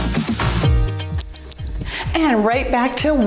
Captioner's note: timer beeps